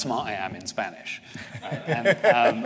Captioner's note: laughter